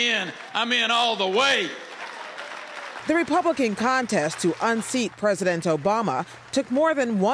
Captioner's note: cheering and applause